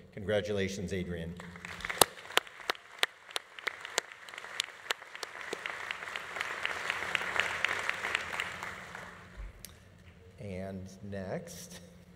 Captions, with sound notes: Congratulations, Adrian. (audience applauding) (audience cheering) And next.